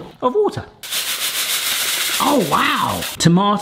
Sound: couscous rattles

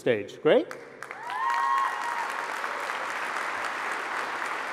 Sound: applause

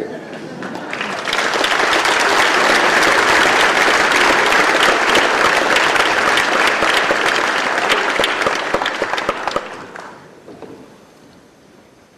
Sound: applause

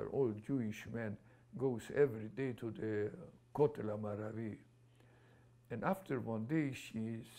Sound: non-english

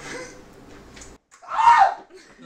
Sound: definitely manly scream

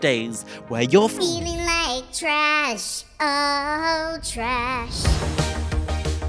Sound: high pitched voice

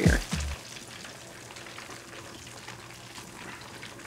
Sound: oil sizzling

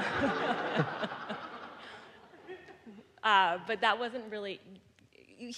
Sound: audience laughing

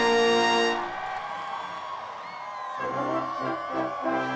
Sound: cheering

